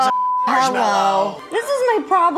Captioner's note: beeps